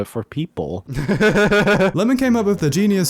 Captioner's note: laughter